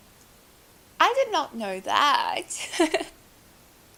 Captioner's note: laughs